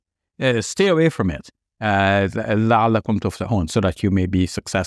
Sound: speaks Arabic

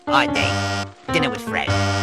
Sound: bzzz

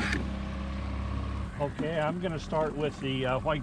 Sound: thunk; boat engine idling

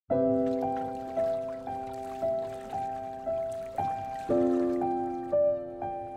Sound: calm piano music; water rushing

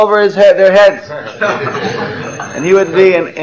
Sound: laughter

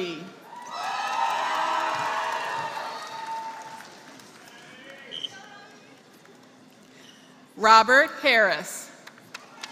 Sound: applause; applause

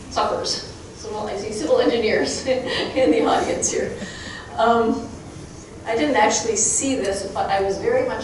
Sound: chuckling

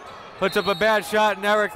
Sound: whistle

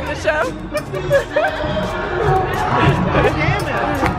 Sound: laughs

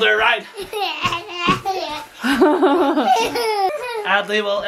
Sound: laughing

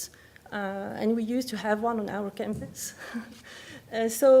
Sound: laughs

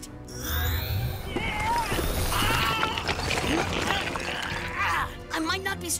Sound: grunts

